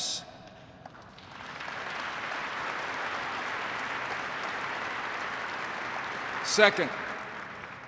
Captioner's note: applause